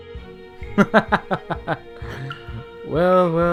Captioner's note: Owen laughs maliciously